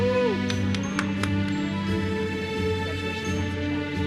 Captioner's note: attendees cheering; uplifting music continues